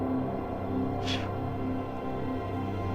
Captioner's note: blowing; tense music